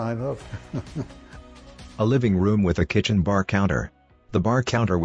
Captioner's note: laughter